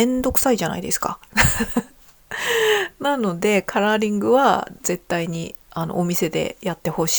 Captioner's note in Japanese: 笑い; 息をのむ音